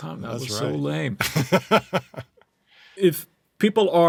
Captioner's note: laughter